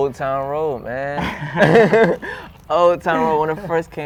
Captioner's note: laughter